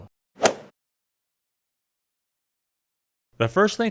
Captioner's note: golf swing sound effect